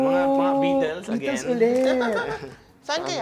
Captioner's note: giggling